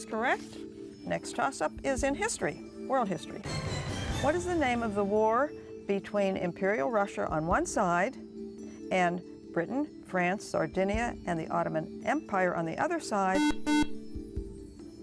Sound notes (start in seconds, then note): 13.3 buzzer